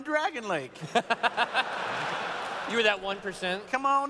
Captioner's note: laughter